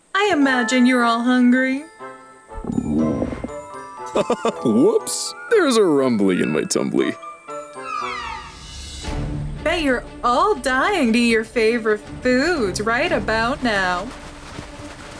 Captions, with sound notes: I imagine you're all hungry. [stomach grumbles] [laughs] Whoops! There's a rumbly in my tumbly. Bet you're all dying to eat your favorite foods right about now.